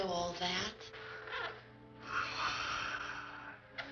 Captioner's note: sighs